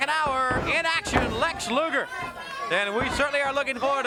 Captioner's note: body thudding